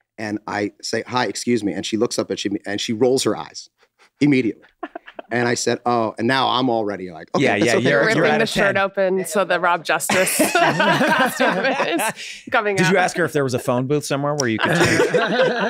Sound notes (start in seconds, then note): 4.8 Megan snickers; 10.0 group laughs